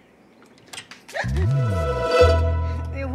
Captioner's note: Door opens